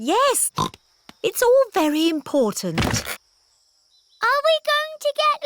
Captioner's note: snorts